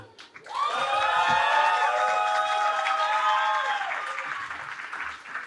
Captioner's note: cheering